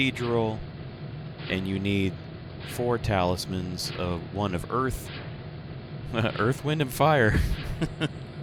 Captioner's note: laughs